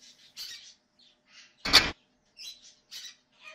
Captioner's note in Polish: skrzek papugi